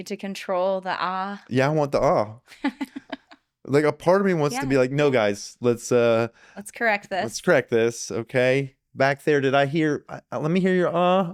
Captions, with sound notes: To control the ah. Yeah, I want the ah. (laughing) Like a part of me wants to be like, no guys, let's-- Let's correct this. Let's correct this, okay. Back there, did I hear, let me hear your ah.